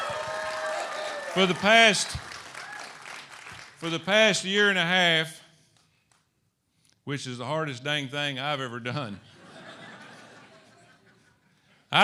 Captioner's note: applause